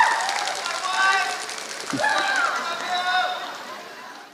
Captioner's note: applause